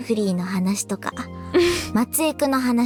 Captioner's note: chuckles